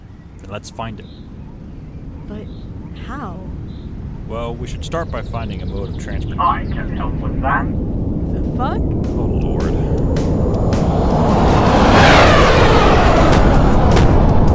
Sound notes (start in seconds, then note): 6.9 over comms